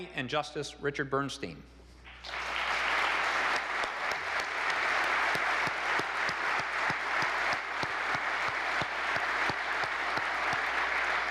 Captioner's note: applause